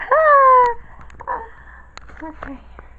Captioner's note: gasp!